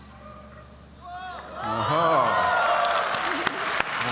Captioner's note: applause